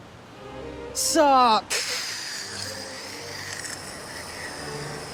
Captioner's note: slurping